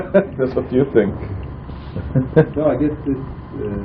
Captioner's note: laughing